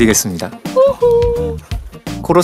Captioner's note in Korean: 가성 소리